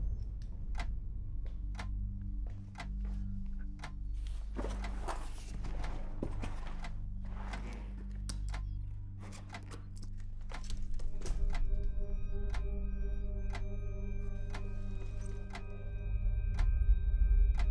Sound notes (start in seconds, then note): 0.0 bag scrapes on the floor; 0.0 ominous music; 8.8 clock continues ticking